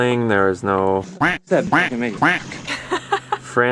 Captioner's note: quacks; laughs